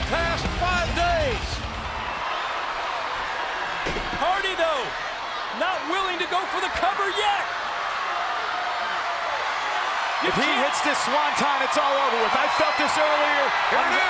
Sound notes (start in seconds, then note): 2.0 crowd cheers; 8.2 crowd roars